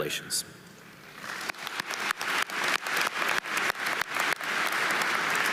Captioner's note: audience applauding